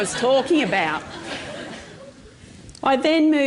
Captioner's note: laughter